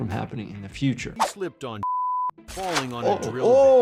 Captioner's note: beep